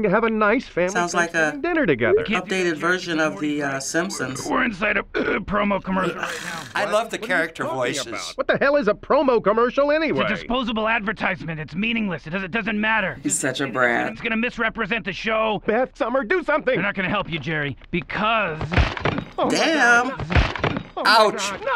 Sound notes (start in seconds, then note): 18.4 plates shattering; 21.6 laughs